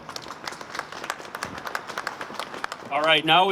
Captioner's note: applause